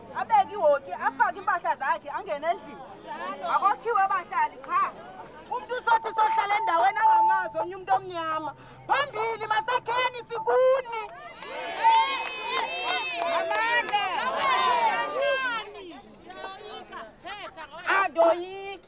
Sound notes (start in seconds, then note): 11.0 crowd applauding